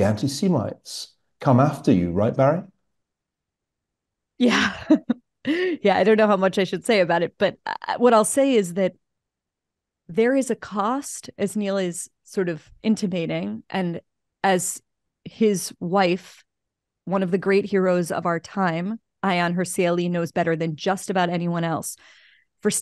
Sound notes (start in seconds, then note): 5.3 laugh